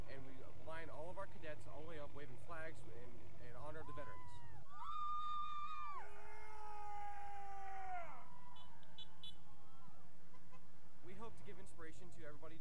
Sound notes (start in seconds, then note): 3.9 cheering; 8.5 horns honking